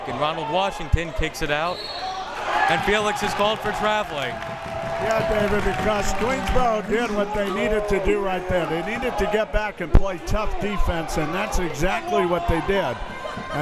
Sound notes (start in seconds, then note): 1.7 whistle tweeting